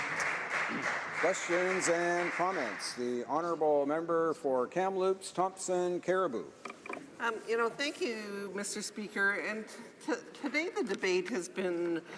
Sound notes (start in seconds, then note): 1.8 applause